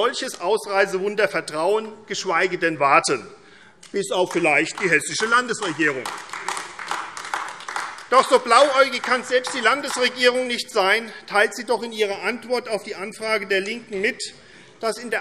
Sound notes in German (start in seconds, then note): 6.0 Beifall AfD